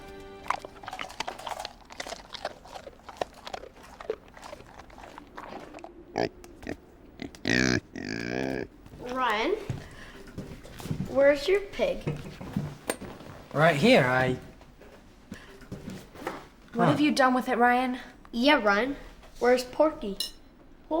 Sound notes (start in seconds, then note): 0.4 crunching; 7.2 pig oinks